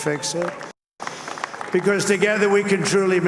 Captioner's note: applause